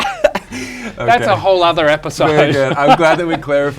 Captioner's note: laughs; laughs